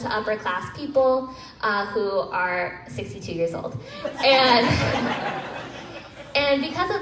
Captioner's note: crowd laughs